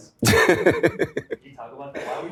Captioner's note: laughs